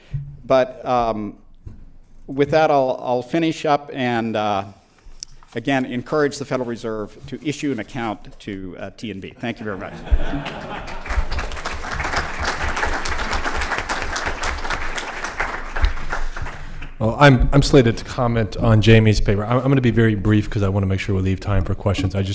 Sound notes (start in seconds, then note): 13.5 laughter; 15.6 applause